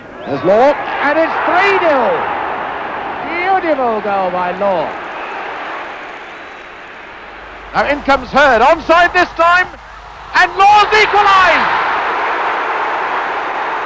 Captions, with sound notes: There's Law. And it's three-nil. [crowd roaring] Beautiful goal by Law. Now in comes Herd, onside this time. And Law's equalised. [crowd roaring]